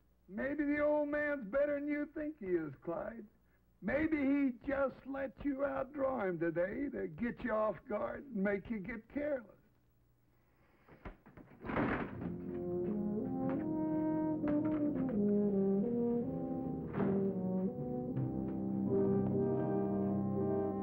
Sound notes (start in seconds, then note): 11.0 chair clattering; 13.7 dramatic music